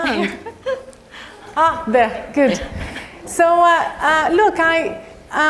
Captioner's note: laugh